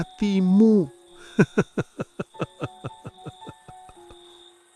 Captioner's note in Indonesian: tertawa